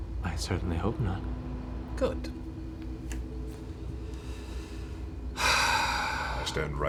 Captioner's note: sighs